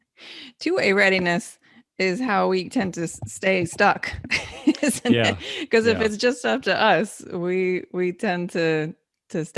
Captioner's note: laughing